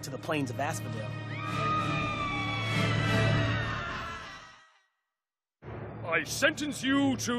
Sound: woman screaming

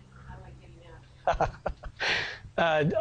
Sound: laughs

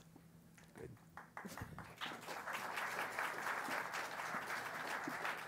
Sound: audience applauds

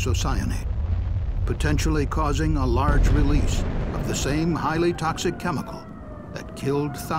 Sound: sound of explosion

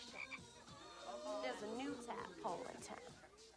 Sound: croaking

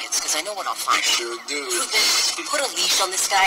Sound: voiceover

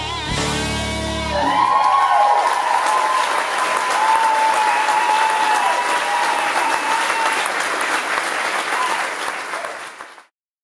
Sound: applause

